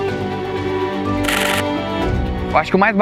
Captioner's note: shutter noises